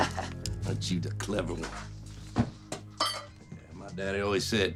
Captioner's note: chuckles